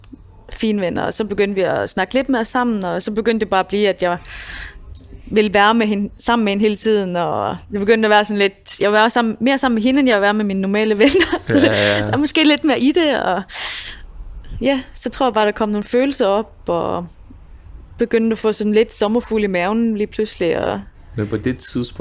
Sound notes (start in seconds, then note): 11.0 laughs